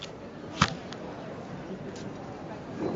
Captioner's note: thuds